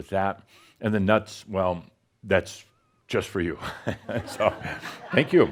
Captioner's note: more chuckles